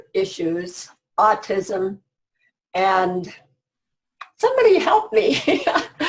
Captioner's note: laughs